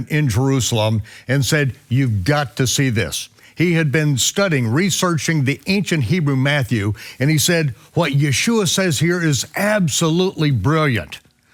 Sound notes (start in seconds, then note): none